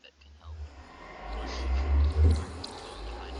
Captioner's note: can't help but chuckle